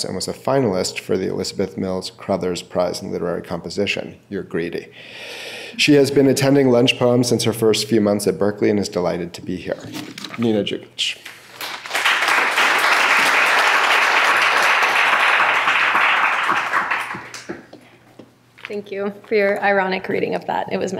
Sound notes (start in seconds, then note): 11.5 clapping